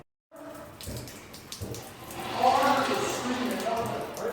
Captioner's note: water dripping